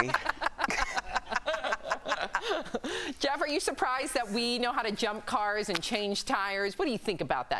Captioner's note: laughter